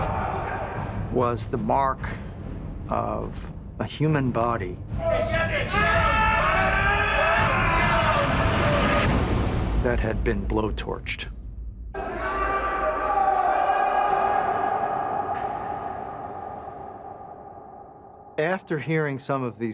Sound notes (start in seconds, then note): 5.0 men screaming and shouting; 11.9 men shouting